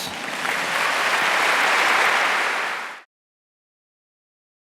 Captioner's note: applause